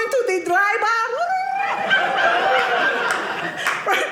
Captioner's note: audience laughing